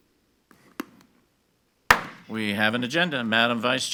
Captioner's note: gavel bangs